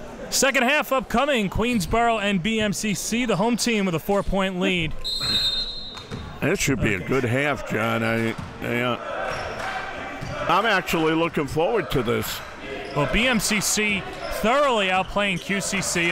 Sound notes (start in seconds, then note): 5.0 whistle blows